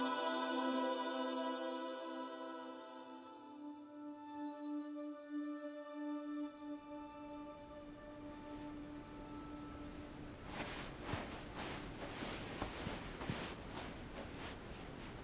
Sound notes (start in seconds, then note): 10.9 feet shuffling